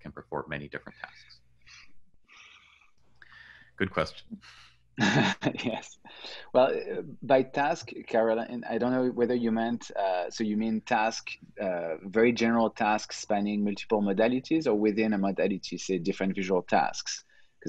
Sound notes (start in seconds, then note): 5.0 laughing